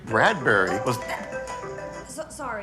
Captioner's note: phone alarm ringing